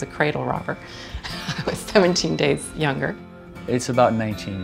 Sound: laughing

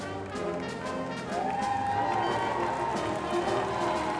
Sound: crowd applauding

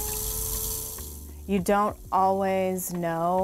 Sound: pottery wheel whirring

